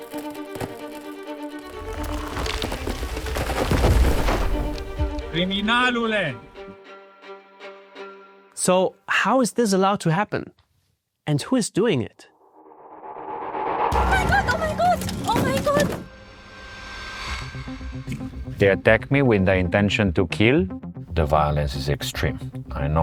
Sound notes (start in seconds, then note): 0.0 tree creaking; 3.7 tree thuds